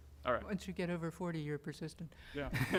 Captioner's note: laughter